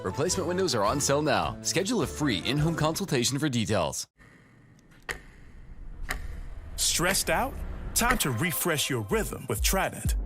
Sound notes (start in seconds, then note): 4.5 clock ticking